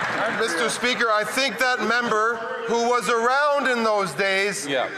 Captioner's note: some Applause